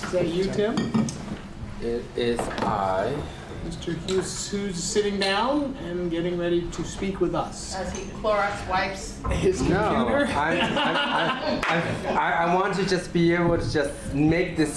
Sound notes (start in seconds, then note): 10.0 laughter